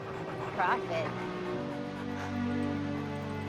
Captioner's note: laughs